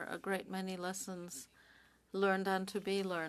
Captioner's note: speaking French